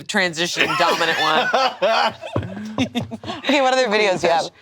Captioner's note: all laughing